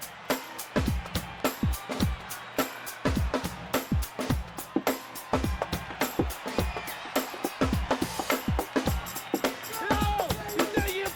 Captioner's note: crowd cheering